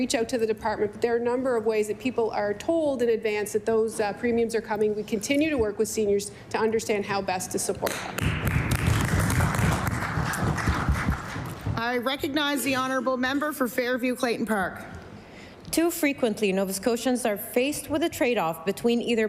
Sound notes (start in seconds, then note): 11.5 applause